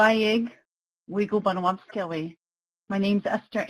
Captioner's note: speaking in Native language